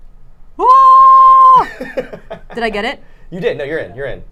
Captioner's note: yells